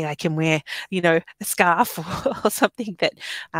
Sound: laughing

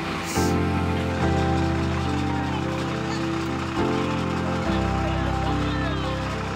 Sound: bus engine roaring; upbeat music

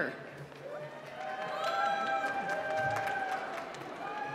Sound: applause

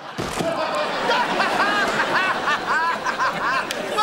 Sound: laughing

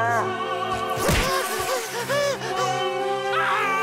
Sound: panting; screaming

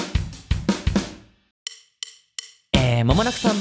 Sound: natural voice

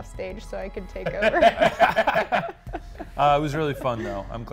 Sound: all laughing

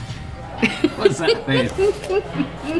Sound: laughing

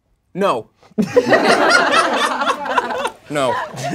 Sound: laughing

